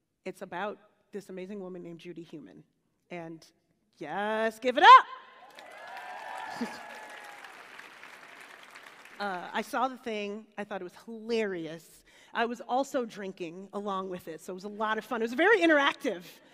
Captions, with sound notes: It's about this amazing woman named Judy Heumann. And-- Yes, give it up! [APPLAUSE AND CHEERING] I saw the thing. I thought it was hilarious. I was also drinking along with it so it was a lot of fun. It was very interactive.